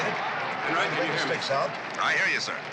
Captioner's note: chattering